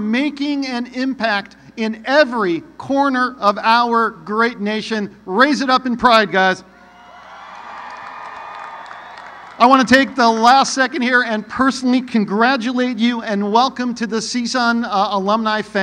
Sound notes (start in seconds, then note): 10.7 cheering